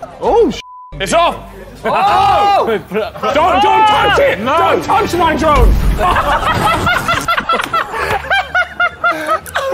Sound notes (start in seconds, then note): 1.9 Sidemen yelling; 5.6 Sidemen laughing